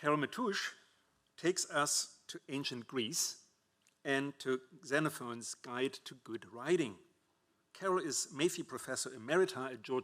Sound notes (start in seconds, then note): none